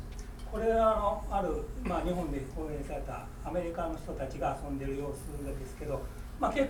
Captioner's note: speaking in foreign language